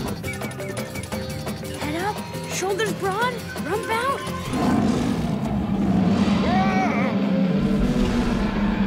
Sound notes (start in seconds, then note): 4.4 roars